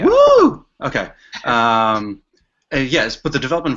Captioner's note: chuckles